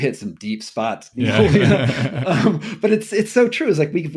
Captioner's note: laughing